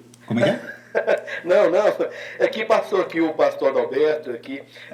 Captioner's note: laughs